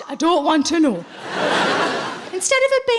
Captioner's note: audience laughing